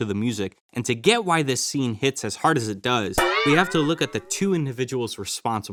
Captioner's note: boing